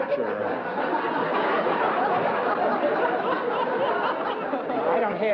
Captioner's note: laughter